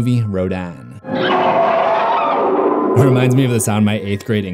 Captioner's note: rodan screech